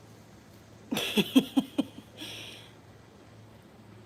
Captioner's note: laughing